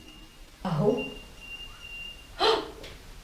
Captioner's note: whistle